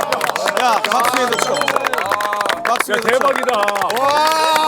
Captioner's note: starts clapping again